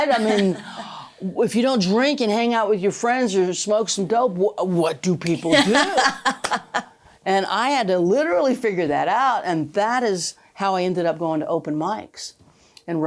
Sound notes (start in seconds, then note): 5.5 laughing